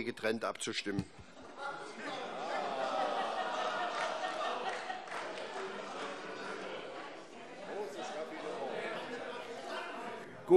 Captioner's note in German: Heiterkeit und Beifall